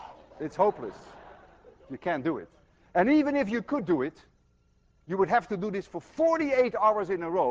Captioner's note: more laughter